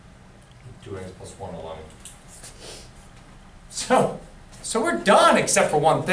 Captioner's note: voiceover